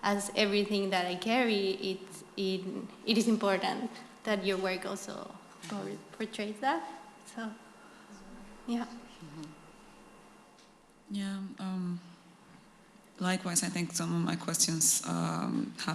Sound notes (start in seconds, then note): none